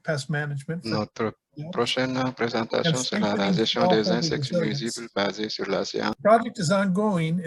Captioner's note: translator speaking foreign language